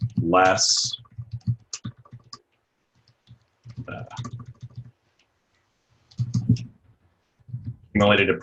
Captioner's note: typing